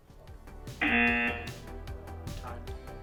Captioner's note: upbeat music; klaxon blares